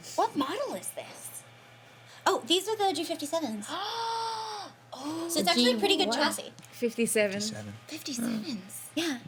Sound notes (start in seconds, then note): 4.1 gasps